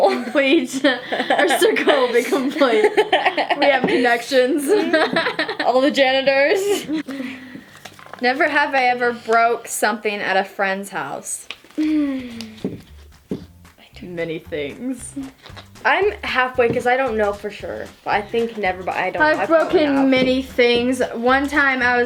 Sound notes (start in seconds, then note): 3.0 laughs